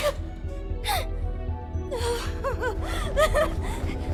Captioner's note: tense music plays; gasps, whimpers; whimpering frantically